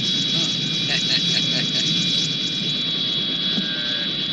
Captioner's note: laughing